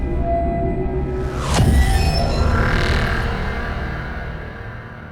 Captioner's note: ominous music continues; text booming